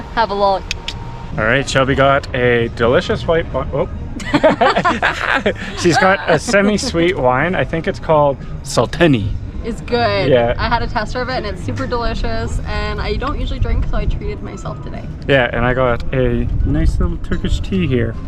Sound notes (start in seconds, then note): 4.2 laughs